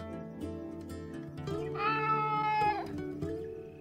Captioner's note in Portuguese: filhote miando